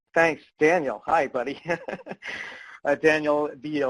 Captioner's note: laughs